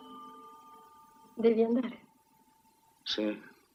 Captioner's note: clock chimes